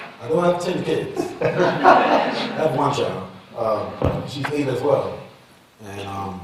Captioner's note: laughter